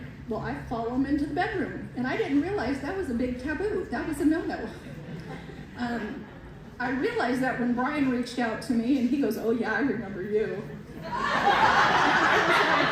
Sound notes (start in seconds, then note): 4.9 laughter; 11.1 loud laughter